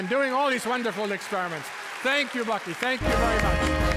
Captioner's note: audience applauding